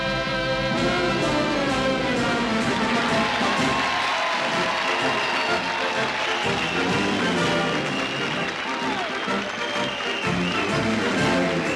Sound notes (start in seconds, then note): 0.3 fanfare playing over speakers; 2.2 crowd cheering